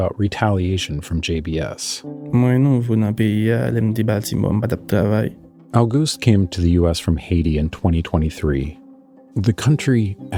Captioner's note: speaking Creole